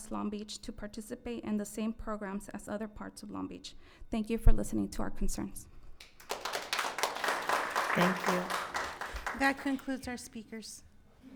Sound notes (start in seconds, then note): 6.0 audience clapping